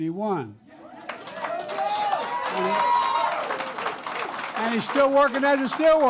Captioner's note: applause